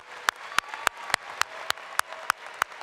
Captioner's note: applause